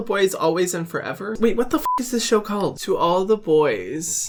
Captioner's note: beeping